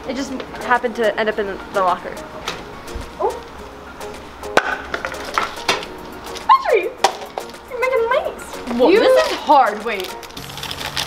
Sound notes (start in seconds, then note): 4.5 items hitting the floor